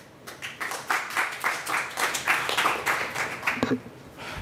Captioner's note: applause